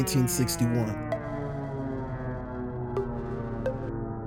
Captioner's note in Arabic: هدير محركات الطائرة